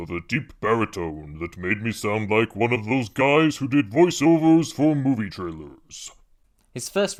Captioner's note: pitch-shifted American accent